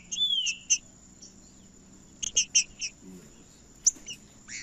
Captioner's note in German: trinca ferro cantando